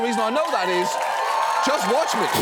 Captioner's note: audience cheers